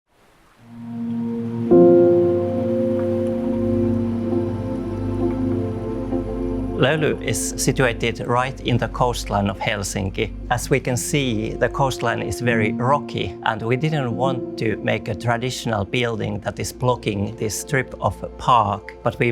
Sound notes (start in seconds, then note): 0.5 tranquil music; 0.5 water lapping